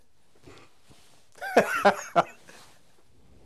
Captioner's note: laughs